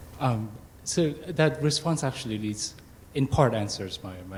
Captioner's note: voiceover